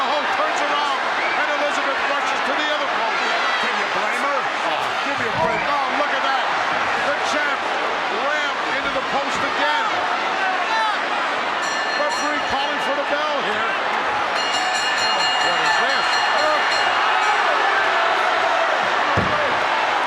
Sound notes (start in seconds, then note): 11.6 bell ringing; 14.3 bell ringing; 16.6 audience exclaiming